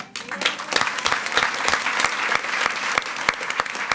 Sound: attendees clapping

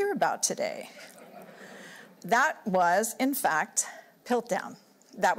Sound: laughter

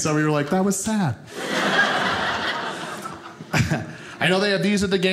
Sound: audience laughing

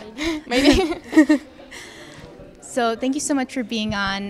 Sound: all chuckling

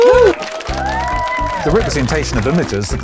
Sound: clapping

